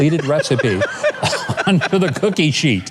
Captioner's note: laughs